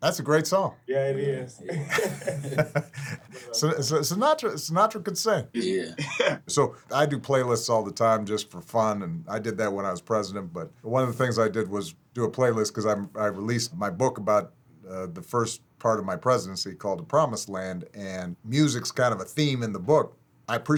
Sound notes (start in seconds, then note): 1.6 all chuckle; 5.6 laughs